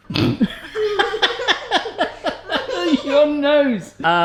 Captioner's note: laughs